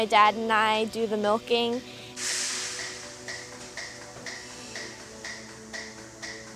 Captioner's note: milking machines clicking